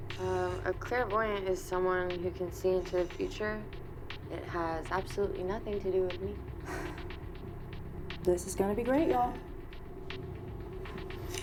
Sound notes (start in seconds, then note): 6.6 Rachel sighs